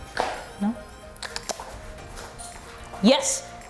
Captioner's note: clicks tongue